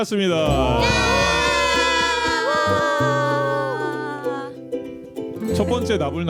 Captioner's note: cheering